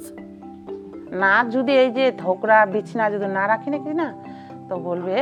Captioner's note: speaking foreign language